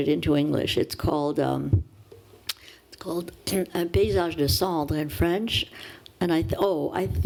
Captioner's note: french